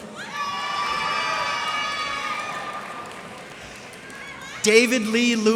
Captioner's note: cheers and applause